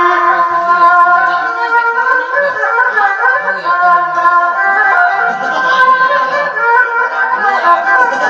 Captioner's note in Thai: เสียงหัวเราะ